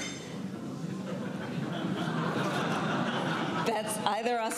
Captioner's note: laughter